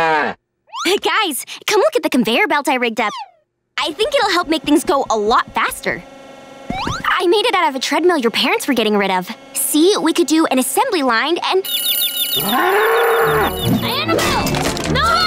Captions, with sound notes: Hey guys. Come look at the conveyor belt I rigged up. I think it'll make things go a lot faster. I made it out of a treadmill your parents were getting rid of. See? We could do an assembly line, and- [tweeting, mooing] Annabell, no!